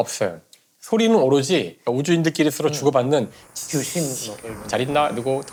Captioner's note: there's only the sound of astronauts' communications